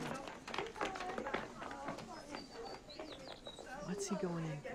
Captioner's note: chattering